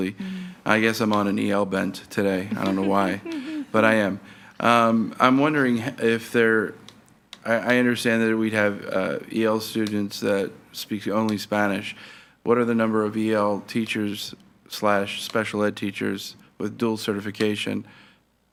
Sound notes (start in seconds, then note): 2.5 chuckles